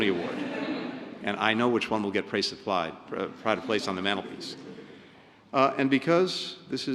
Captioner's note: laughter; laughter